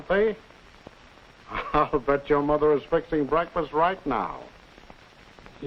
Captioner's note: chuckles